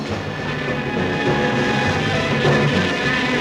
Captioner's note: dramatic music; buzzing